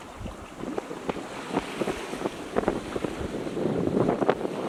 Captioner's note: waves whooshing